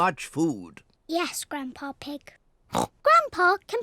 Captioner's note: oinks